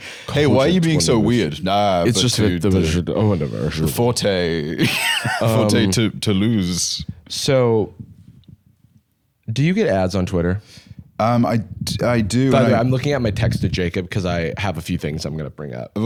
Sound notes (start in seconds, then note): 4.7 laughs